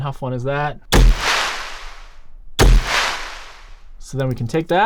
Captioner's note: gun firing